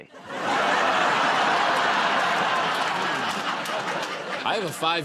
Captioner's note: laughter